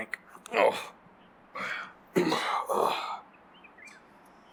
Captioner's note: Mick groaning